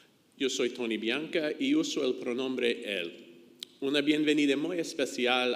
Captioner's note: speaks in foreign language